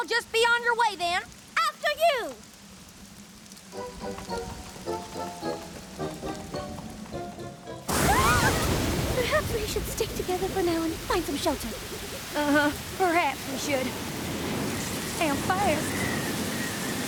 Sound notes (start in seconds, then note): 8.3 thunder crashes